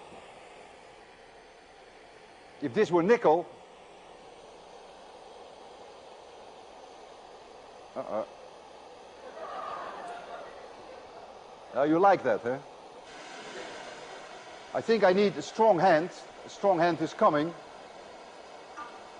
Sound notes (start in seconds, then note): 9.2 laughter